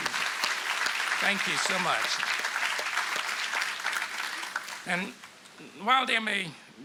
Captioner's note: applause